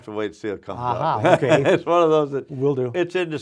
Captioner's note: laughs